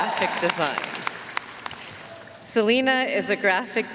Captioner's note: audience cheering and applauding